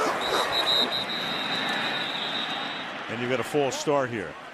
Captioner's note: whistles